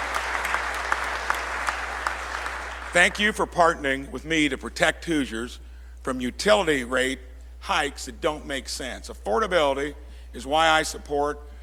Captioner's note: applause